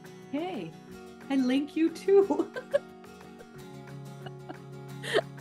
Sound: laughs

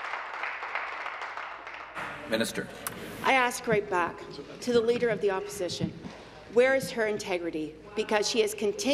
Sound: applause

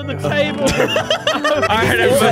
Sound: all laughing

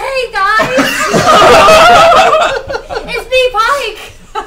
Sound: all laugh

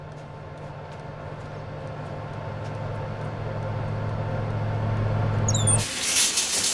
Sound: oven fan blaring

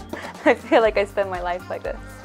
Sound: laughing

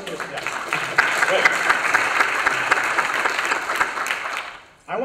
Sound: applause

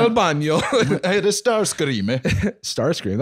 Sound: Italian accent

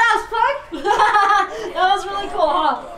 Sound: laughing

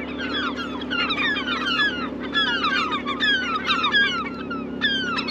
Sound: seagulls calling

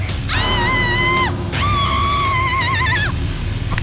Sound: screams

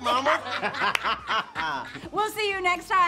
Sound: all laughing

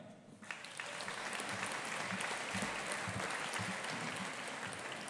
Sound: audience applauding

